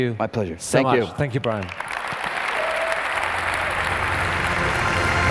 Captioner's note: applause